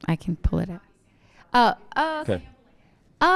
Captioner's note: organizer chattering